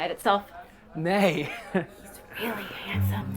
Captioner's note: laughs